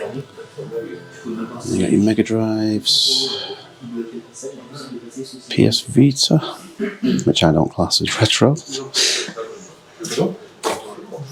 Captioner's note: laughs